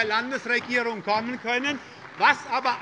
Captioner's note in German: Beifall bei der SPD